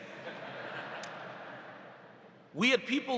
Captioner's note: audience laughs